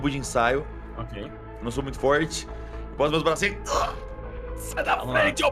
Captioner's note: grunt